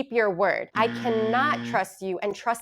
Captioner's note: buzzer ringing